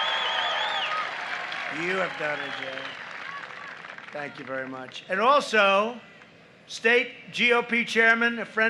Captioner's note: applause